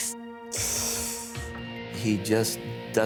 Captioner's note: winces